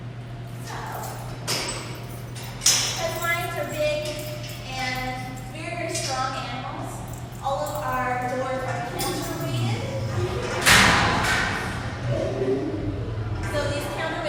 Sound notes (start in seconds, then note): 0.2 lock opening; 9.4 door opening; 11.6 lion growl